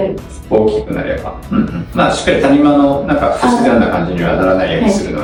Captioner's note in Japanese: 咳払い